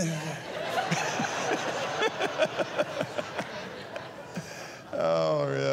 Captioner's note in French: rires